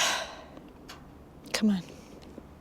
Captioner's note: Paige sighs